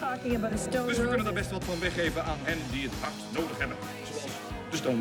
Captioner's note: man speaks in dutch